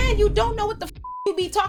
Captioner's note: beep